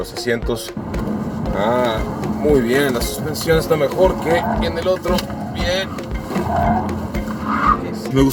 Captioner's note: tyres squealing